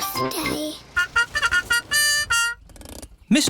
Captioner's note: horn tooting